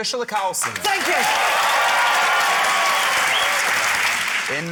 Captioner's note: cheering, applause